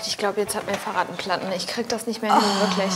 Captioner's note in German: Energisches Klingeln